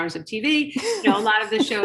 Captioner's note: laughing